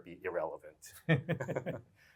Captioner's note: laughter